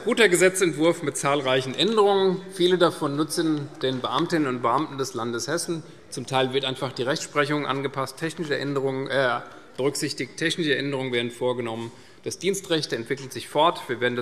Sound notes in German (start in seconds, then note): none